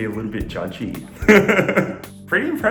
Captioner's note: laughs